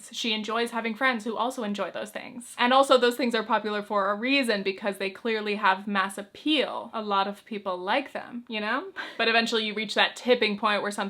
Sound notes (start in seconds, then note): 9.0 chuckles